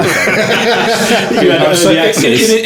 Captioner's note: all laughing